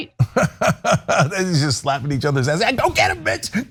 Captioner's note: laugh